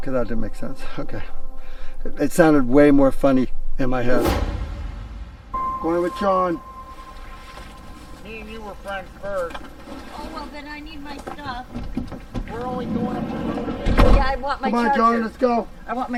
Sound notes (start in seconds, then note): 4.0 scene swooshing